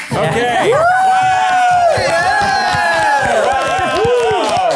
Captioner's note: everyone cheers